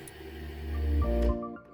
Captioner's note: processor grinding